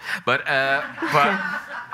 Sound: audience laughing

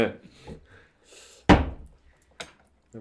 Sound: thud

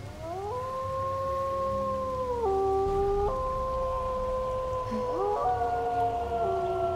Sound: fox howl

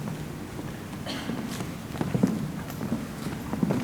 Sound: foot steps approaching

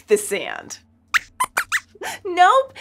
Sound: squeaks squeaks

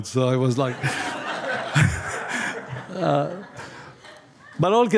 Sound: audience laughing

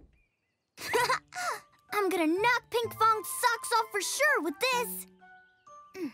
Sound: chuckles

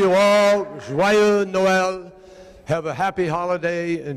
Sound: speaking in foreign language

